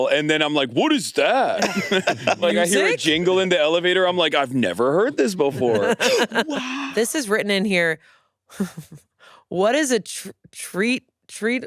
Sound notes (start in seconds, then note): 1.5 all laughing; 8.5 chuckles